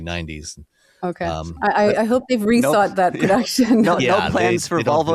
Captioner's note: chuckles